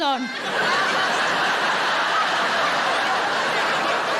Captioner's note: audience laughing